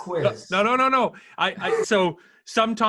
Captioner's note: laughing